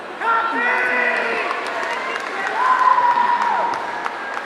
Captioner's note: audience cheering